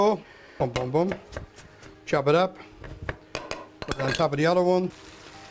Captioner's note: chopping; sizzling